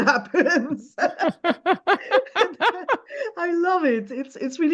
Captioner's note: laughs